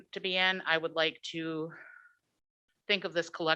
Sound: sighs

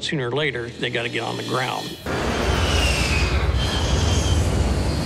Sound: engine whistling

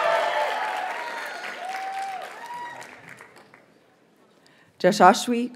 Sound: audience cheers and applauds

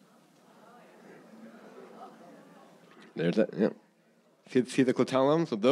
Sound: audience murmuring

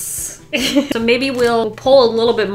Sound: laughs

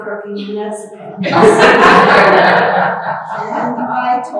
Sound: laughter

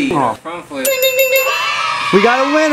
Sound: ding

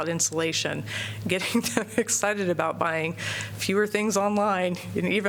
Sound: laughter

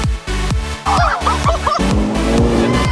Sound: engine rumbling; women laughing; people cheering

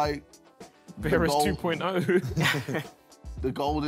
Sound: laughs

